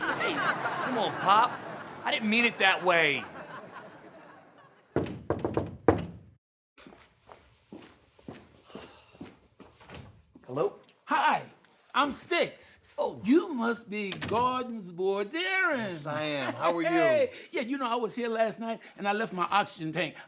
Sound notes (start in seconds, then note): 4.9 knocking